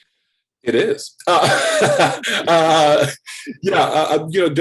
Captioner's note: laughs